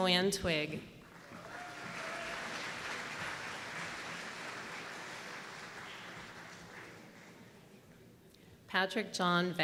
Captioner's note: applause